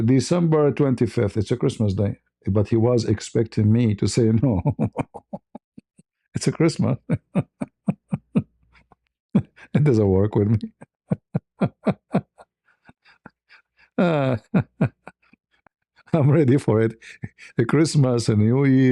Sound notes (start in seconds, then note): 4.4 ketawa; 12.2 ketawa